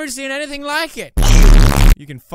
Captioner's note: earrape